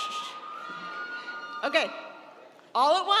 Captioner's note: shushing